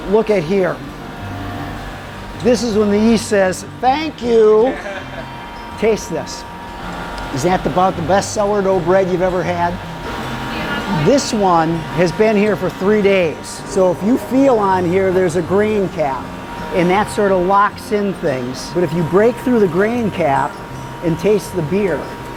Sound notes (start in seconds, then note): 4.4 man laughs